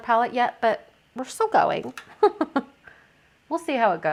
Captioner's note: laughs